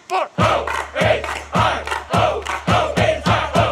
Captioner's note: chanting